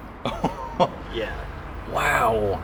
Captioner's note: laughter